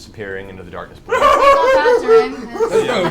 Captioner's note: maniacal laugh